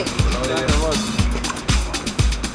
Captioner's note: chattering